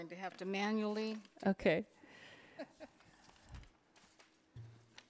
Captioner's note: laughs